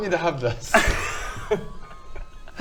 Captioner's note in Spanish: risas atónitas